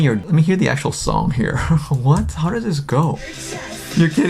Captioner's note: laughs